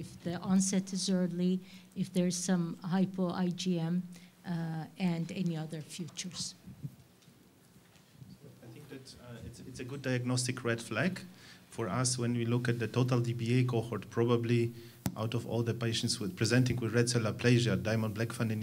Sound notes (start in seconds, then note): none